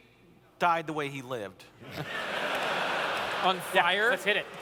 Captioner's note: laughter